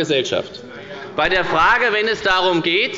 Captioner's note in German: Zurufe von dem BÜNDNIS 90/DIE GRÜNEN